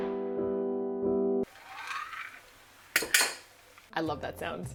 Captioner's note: 𝘚𝘰𝘶𝘯𝘥 𝘰𝘧 𝘤𝘢𝘯 𝘰𝘱𝘦𝘯𝘪𝘯𝘨